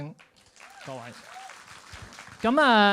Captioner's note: applauds